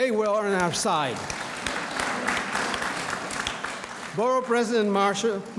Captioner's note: audience applauds